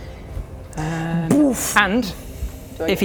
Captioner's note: boof!